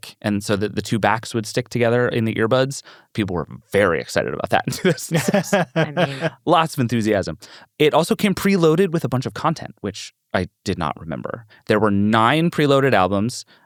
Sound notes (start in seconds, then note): 4.7 laughs